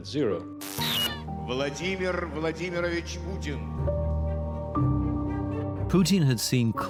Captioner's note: announcer speaks in Russian; static hisses and buzzes